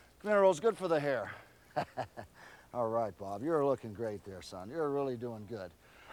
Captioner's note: laugh